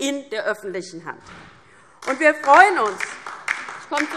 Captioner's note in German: Beifall DIE LINKE